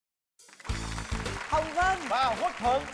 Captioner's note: applause